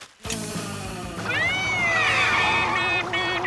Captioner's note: imitating siren